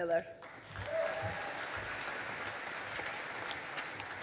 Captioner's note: audience applauding